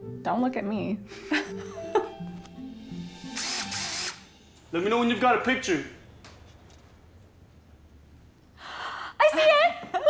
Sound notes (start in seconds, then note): 1.2 laughs; 3.0 drill whirs